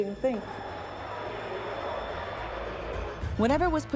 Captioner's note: fans shouting